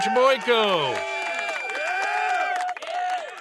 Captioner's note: audience cheering